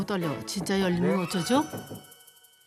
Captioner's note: knock! Knock!